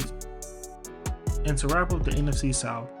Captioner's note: voiceover